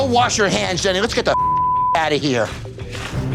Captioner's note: beep